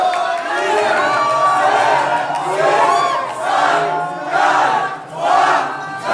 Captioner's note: crowd counting in foreign language